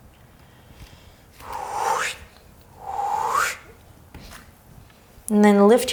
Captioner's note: whooshing